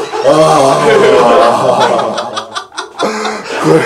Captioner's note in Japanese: 笑い